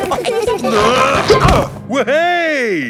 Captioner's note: all giggling; grunting